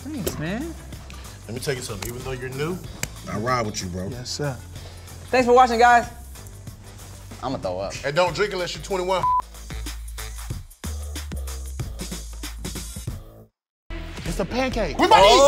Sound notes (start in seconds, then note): 9.2 beep; 10.0 upbeat music